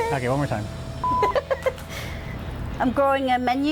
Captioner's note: beep; laughing